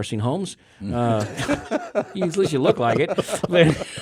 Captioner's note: hosts laughing